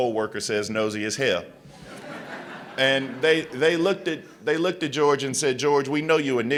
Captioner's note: laughter